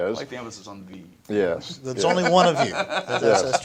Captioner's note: chuckles